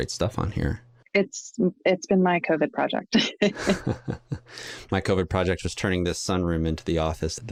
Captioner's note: chuckles